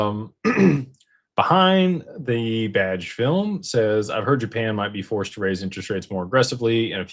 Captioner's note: clears throat